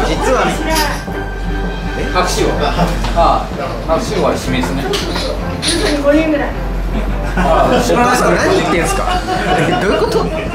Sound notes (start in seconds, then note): 2.0 laughs